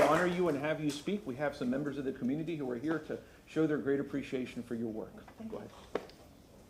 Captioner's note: applause